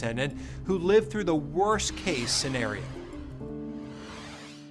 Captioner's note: graphics whooshing; soft music